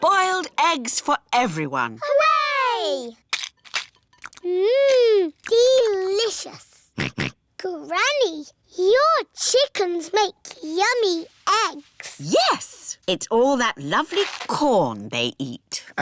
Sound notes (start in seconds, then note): 7.0 george oinks